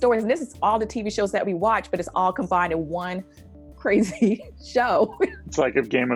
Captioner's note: chuckles